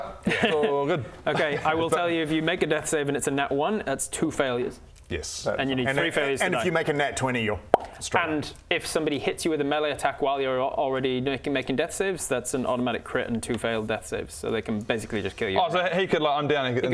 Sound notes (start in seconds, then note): 7.7 pop